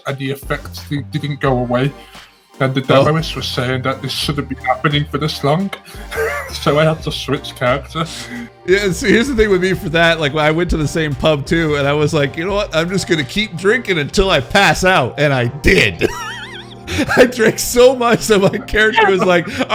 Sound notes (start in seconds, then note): 5.9 laughs